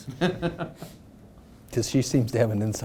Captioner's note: laughing